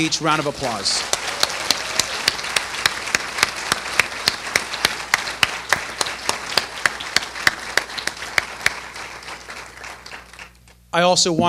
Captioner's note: applause